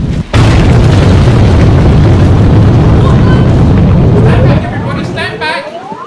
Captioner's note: loud explosion